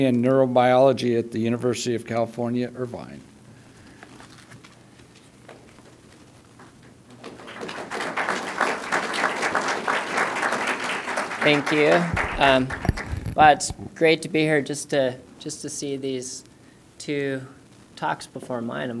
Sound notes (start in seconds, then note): 7.1 applause